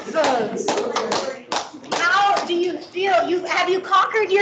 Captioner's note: clapping